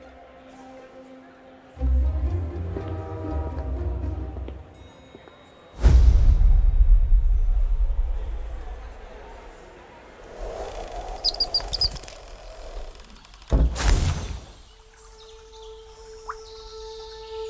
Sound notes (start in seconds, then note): 5.6 dramatic slam; 9.6 door creaks and birds chirp